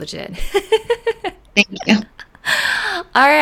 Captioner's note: laughing